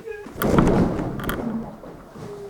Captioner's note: waterbed sloshes